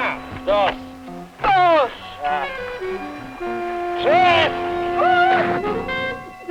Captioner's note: speaking spanish